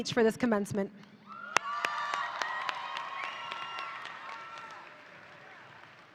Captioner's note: audience applauding